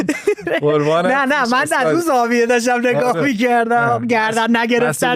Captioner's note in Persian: خنده